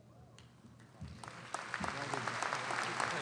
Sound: audience applauding

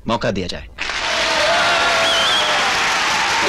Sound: all Cheering

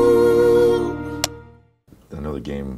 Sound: clapboard clicks

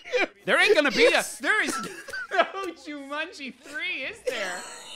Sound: laughing; laughing

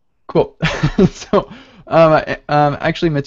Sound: chuckles

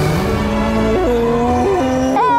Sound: mooing

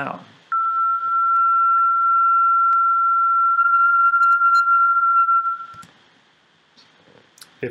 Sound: louder, filtered tinamou sound

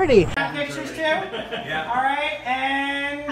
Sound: chuckles

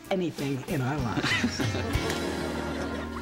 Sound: both chuckle

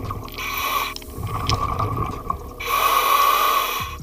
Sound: breathing

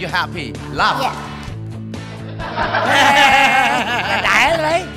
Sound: laughter

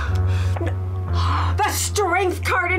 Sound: gasps

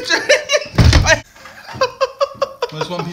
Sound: laughter

